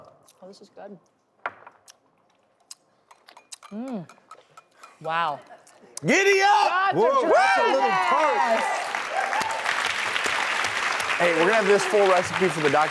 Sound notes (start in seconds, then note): 7.0 audience cheering and applauding